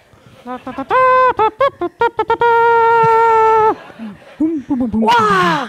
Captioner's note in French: Bruits de trompette faits avec la bouche